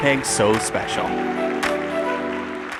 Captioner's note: applause